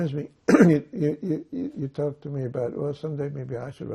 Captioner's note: clears throat